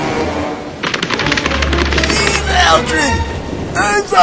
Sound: running

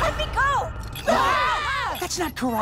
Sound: screaming

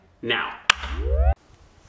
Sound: power buildup

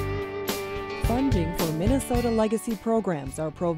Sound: voiceover

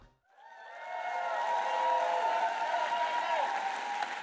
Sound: applause

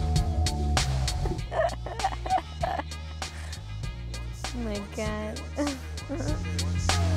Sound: laughing

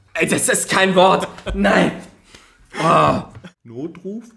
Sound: moans; laughs

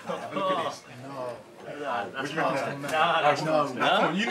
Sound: lads chatter boisterously

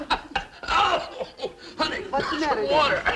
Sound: Brad choking

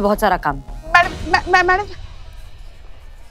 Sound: stammers

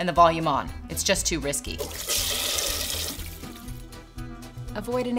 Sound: toilet flushing

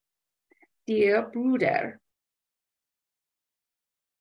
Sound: speaking German

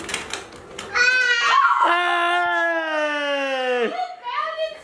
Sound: screeching

